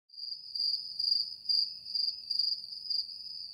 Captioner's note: crickets chirping